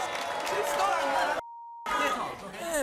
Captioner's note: crowd booing drowns out